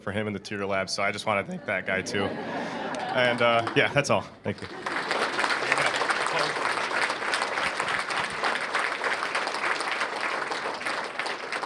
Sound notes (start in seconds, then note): 6.4 applause